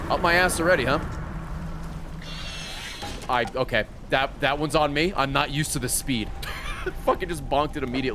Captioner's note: laughs